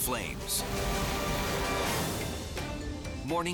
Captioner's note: scene swooshing